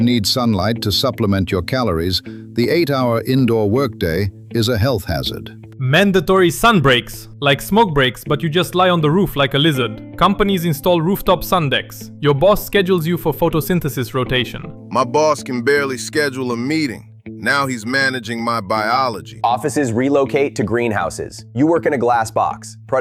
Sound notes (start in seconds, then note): 6.4 excited